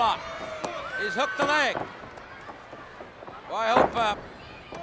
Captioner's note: hands thudding